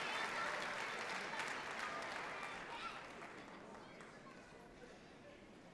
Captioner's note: people chatter indistinctly